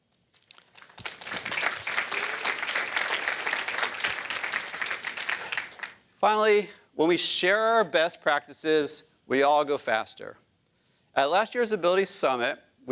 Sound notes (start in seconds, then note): 0.3 applause